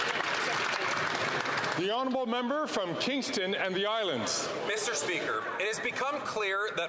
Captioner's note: some Applause